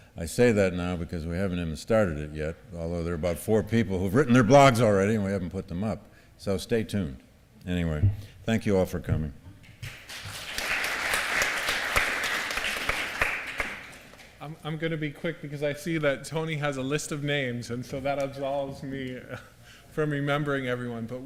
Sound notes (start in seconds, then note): 9.8 applause